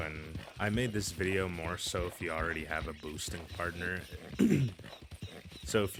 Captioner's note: clears throat